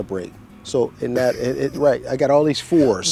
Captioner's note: chuckling